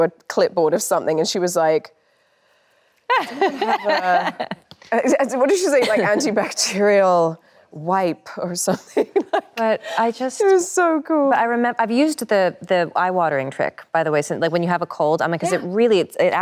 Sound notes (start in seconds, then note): 3.1 Anne laughs cheerfully; 9.0 laughs